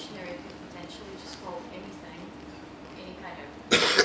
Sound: cough

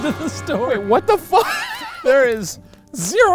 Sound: laughs

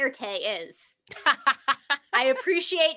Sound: laughs

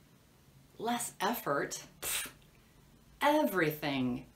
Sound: blowing

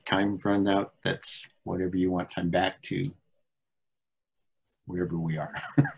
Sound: laughs

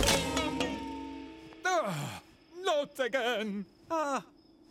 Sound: sighs

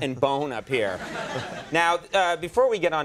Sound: audience laughing

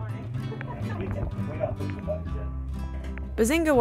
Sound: laughs

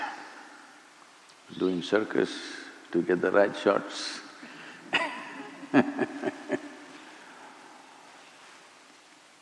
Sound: laughs

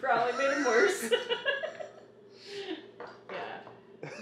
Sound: laughing

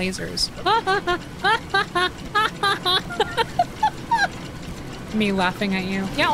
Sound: sing-Songy Laughter

